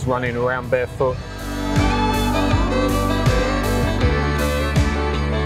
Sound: speaking Thai

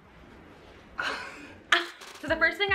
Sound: laughing

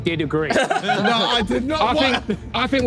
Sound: everyone laughing

